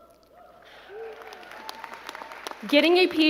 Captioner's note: crowd clapping